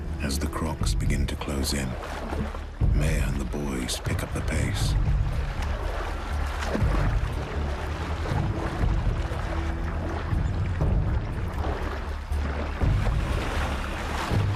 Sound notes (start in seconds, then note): 5.3 suspenseful music; 5.3 water whooshing